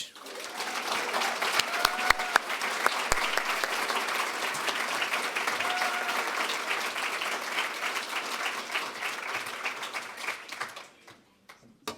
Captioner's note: applause